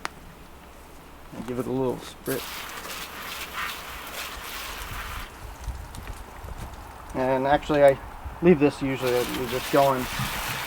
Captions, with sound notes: and give it a little sprit (water being sprayed gently) And actually I leave this usually just goin,